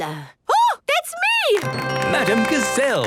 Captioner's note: applause